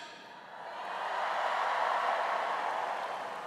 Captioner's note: cheers